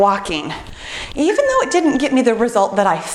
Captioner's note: timer beeps